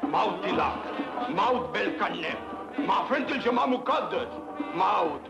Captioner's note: priest speaks foreign language